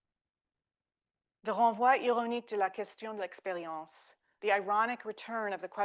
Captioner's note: speaking French